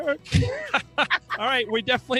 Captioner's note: upbeat guitar music; siblings laughing